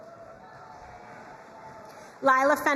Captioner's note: crowd cheering and applauding